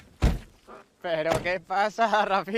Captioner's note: door closing